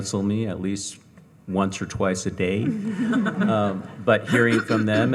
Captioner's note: audience chuckling